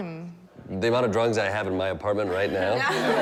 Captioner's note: all laughing